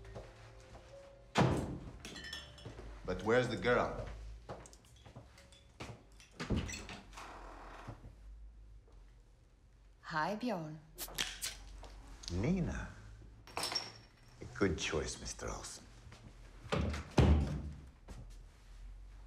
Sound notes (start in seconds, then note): 1.3 door slams; 6.4 door creaks; 16.6 door closes